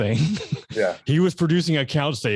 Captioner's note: laughs